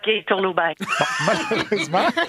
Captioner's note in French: rires